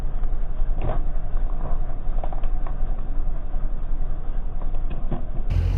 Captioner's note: slowed down buckling